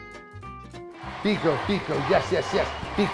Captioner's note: soft audience cheering